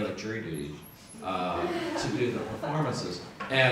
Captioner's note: audience laughs